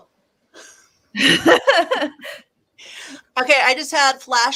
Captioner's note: laughs